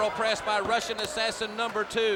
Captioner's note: crowd chatter